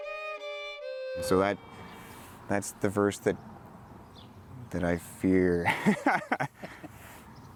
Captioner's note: laughs